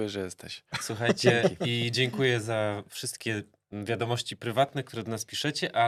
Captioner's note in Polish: śmiech